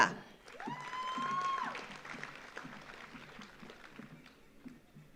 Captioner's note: audience applauds